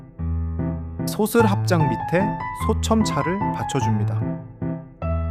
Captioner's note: speaking in foreign language